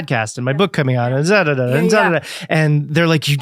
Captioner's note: dadadada listing sound effecting